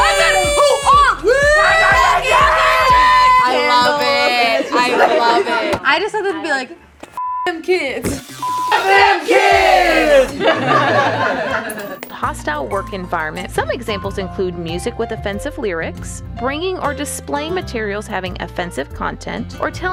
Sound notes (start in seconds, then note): 7.2 beep; 10.4 group laughs